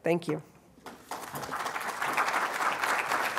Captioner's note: applause